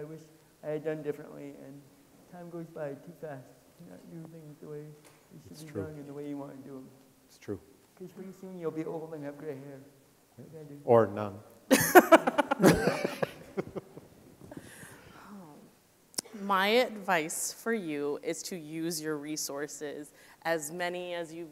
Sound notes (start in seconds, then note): 11.7 people laughing